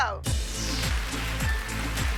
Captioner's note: clapping